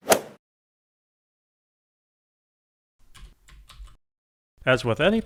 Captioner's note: golf swing sound effect